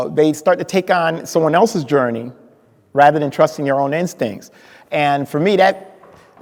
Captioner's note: none